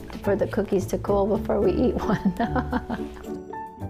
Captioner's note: laughs